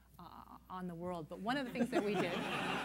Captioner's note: laughter